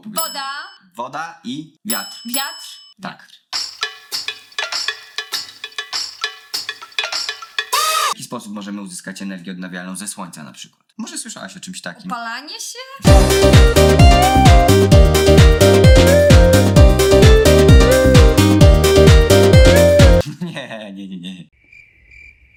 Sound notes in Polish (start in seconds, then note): 0.0 dzwonek; 1.9 dzwonek; 3.6 wesoła muzyka współczesna; 21.6 cykanie owadów